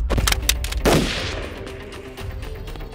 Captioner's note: Gun shot